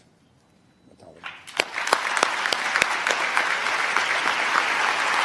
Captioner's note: applause